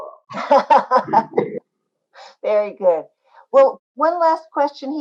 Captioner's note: laughs